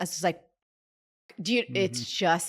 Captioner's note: pause